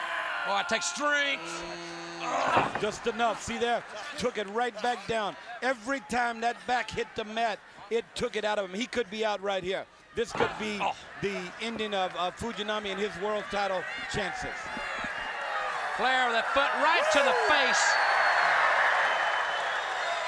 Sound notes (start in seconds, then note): 14.7 audience chattering; 18.1 audience cheering